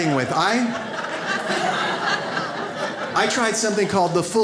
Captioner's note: audience laughs